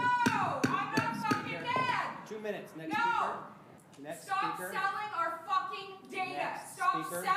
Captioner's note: shouting continues